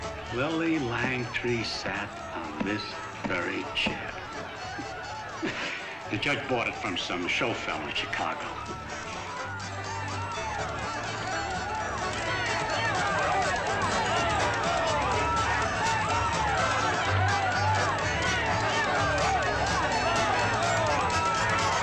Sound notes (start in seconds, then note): 9.8 festive chatter; 9.8 lively music